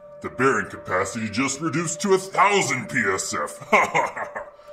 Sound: evil laughter

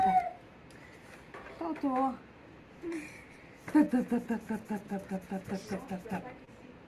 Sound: people in video speaking in foreign language

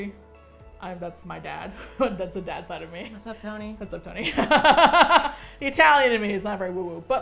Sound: laughs

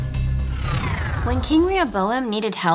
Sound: scene whooshes

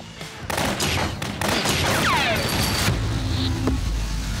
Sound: gun shots

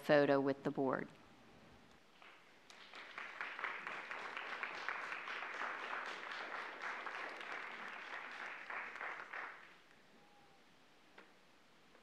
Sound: applause

